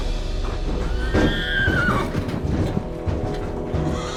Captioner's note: neighing and stomping